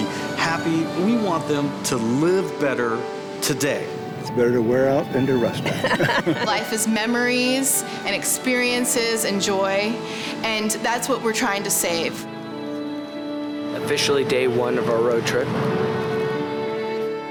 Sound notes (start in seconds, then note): 5.6 laughs